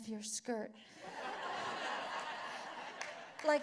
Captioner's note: laughter